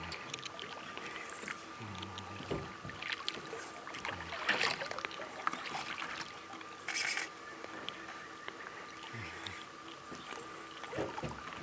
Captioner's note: fish splashing